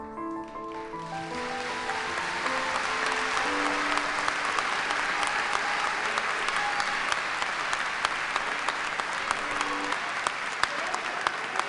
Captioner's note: applause